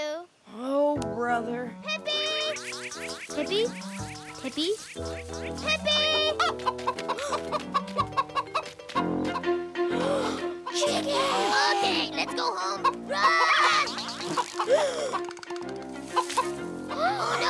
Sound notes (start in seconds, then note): 2.1 buzzing